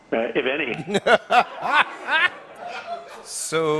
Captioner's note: laughter